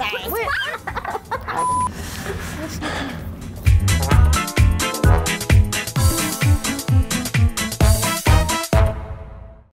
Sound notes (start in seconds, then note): 0.4 laughter; 2.7 sigh